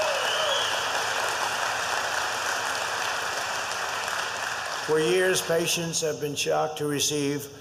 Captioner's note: applause